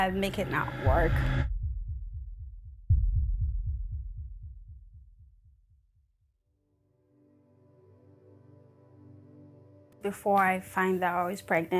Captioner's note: heart beat